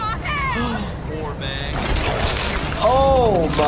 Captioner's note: chainsaw rattling